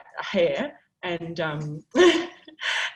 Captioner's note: laughs